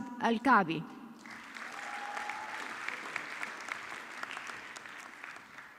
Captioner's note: audience clapping